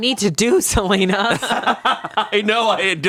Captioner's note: laughs